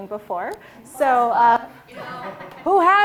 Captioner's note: all laughing